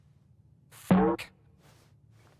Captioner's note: boink!